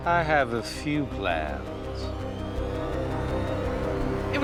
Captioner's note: none